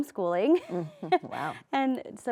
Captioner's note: chuckles